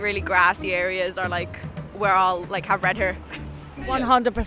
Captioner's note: chuckles